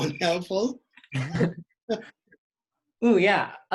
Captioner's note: laughs